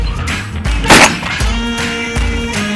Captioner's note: upbeat music; gun shot sound; upbeat music